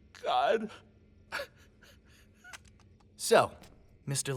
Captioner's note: quiet sobbing